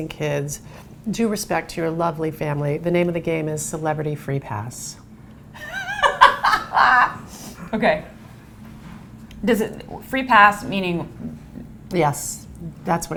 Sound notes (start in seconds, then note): 5.6 laughs